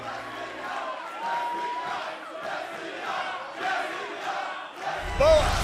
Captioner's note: cheers and applause; fans chanting